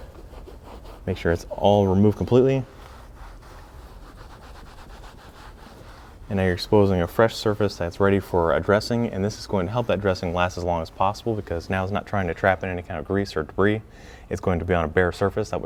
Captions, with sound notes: Make sure it's all removed completely. (towel scrubbing) And now you're exposing a fresh surface that's ready for a dressing and this is going to help that dressing last as long as possible because now it's not trying to trap in any kind of grease or debris. It's going to be on a bare surface,